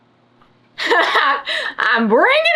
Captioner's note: laughs